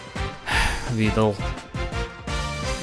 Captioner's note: sigh